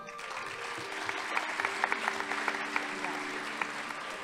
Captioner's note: audience applauding